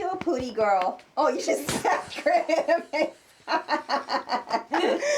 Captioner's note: laughter